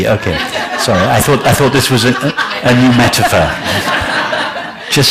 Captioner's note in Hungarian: nevetés